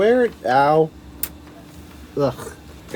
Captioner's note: satisfying click